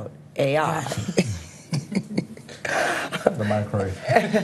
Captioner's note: all laughing